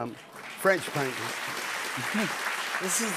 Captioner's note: cheers and applause